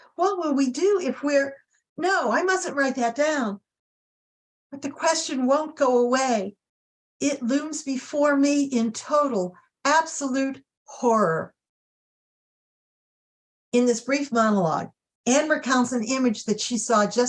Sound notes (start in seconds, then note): none